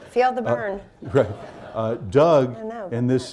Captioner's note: laughter